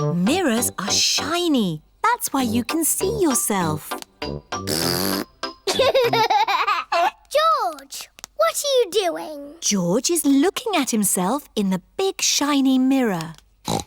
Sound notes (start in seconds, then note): 4.6 blows raspberry; 5.6 giggles; 13.7 snorts